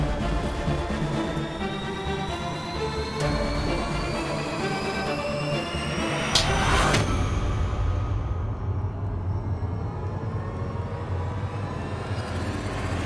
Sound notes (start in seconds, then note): 6.2 slapping